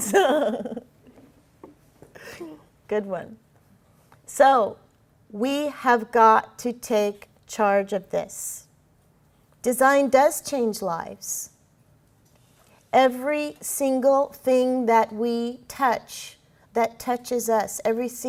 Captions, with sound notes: >> CONSUMERS. >> [LAUGHING] GOOD ONE. SO, WE HAVE GOT TO TAKE CHARGE OF THIS. DESIGN DOES CHANGE LIVES. EVERY SINGLE THING THAT WE TOUCH, THAT TOUCHES US,